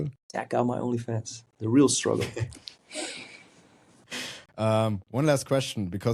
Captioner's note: chuckles